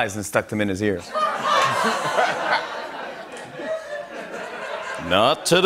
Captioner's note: laughter